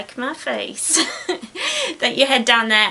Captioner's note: giggles